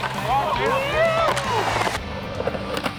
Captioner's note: crowd cheers